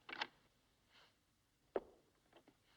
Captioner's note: clatter